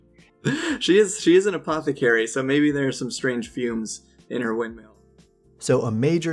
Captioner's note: laughs